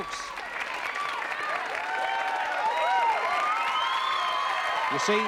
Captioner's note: chatter